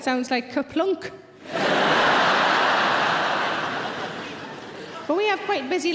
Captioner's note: audience laughs